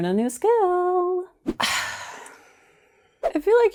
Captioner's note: disappointed sigh